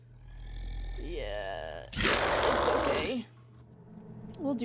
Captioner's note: entity Growling